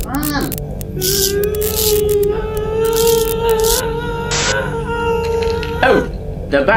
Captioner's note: increasing high pitched whine